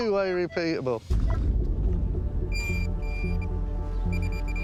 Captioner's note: detector beeping rapidly